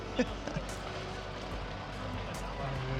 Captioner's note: laughing